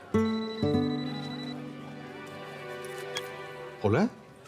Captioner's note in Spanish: Suena el celular